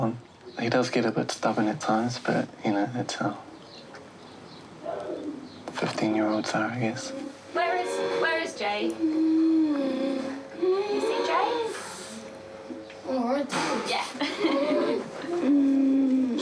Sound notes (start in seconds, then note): 9.0 breathes raspily; 13.9 laughs